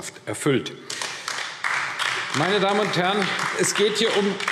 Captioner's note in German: Beifall AfD